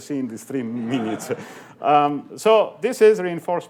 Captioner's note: laughing